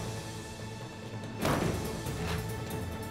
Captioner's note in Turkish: Müzik - Hareketli; Kapı sürgü sesi